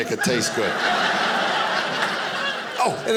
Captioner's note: audience laughing